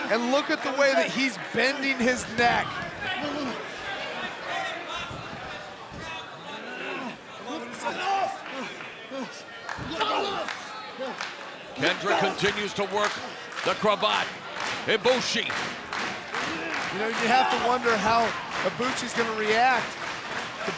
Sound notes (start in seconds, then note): 3.3 crowd shouting; 8.2 wrestlers shouting